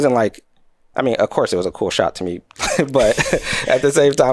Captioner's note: chuckles